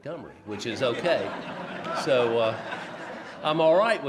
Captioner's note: laughs